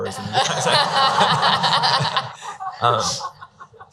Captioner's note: laughing